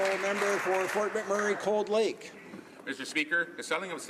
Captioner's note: some Applause